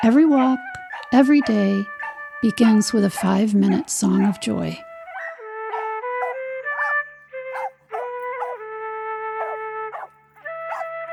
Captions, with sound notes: Every walk every day, begins with a five minute song of joy. (dog barks) (gentle serene music)